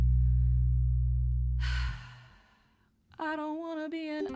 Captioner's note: sigh